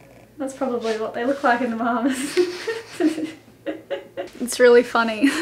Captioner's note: laughs